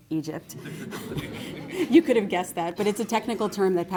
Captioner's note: laughter